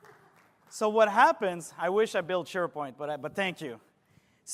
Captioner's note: applause